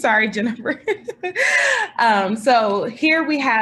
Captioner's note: laughing